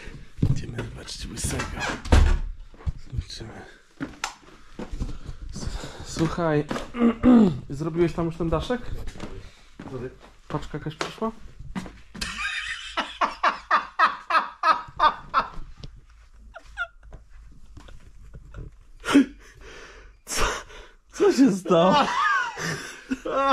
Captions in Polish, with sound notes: idziemy zobaczyć łysego zobaczymy Słuchaj zrobiłeś tam już ten daszek paczka jakaś [śmiech] przyszła co się